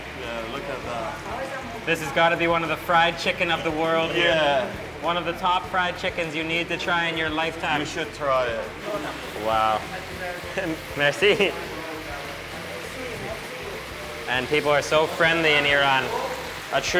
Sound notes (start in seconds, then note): 10.8 chuckling